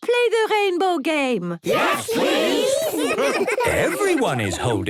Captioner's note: laughter